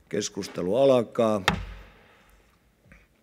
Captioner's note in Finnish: kopauttaa nuijaa